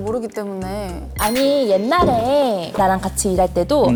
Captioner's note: sound effect of remembering the past